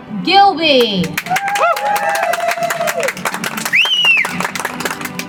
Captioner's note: audience applauds